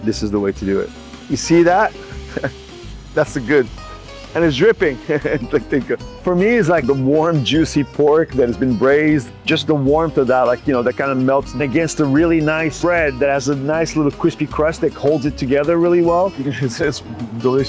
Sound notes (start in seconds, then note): 4.9 laughs; 5.5 speaks Portuguese